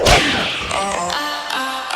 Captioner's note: whip snaps